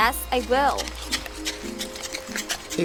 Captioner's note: crunching gravel